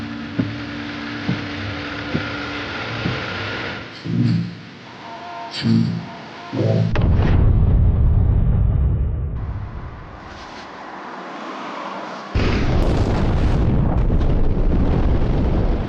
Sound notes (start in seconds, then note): 6.8 explosion rumbles; 10.0 car rustling; 12.3 explosion rumbling